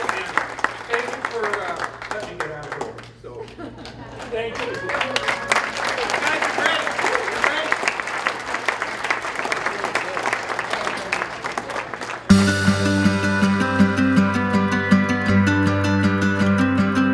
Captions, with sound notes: Thank you for letting me get out of here early. (applause) Thank you for having me. (applause) (upbeat music)